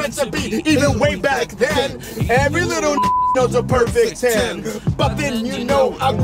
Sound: beeps

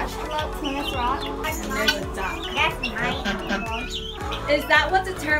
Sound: quack, quack, quack

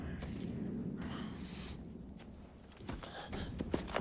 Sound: footsteps approaching

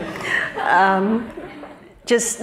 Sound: laughter

